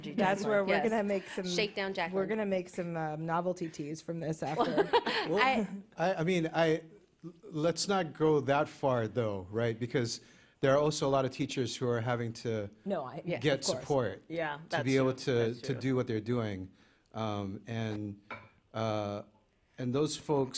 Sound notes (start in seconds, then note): 4.6 laughs